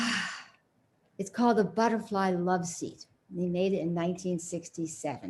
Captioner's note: sighs